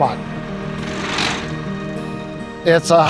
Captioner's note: tractor rumbling